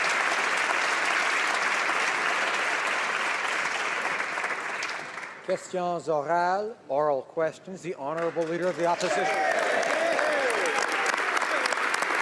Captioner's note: applause